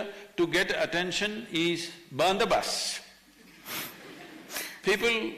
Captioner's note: few laugh